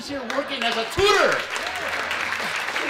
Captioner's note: applause